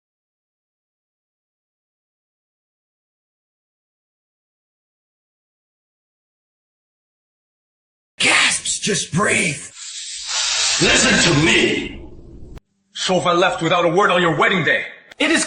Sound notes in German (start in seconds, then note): 9.7 Atemzug